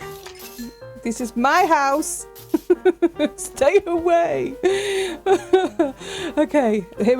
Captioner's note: laughing